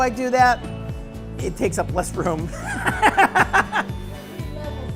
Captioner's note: laughs